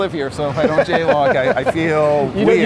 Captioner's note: laughs